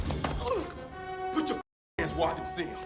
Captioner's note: Dalton exclaims; door clicks; Dalton grunts